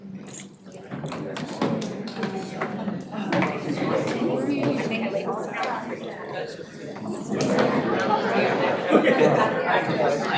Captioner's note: audience chatter